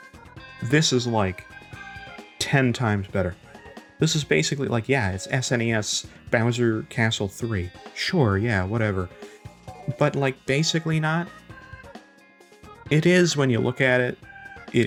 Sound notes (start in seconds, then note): none